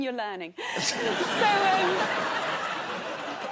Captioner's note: laughter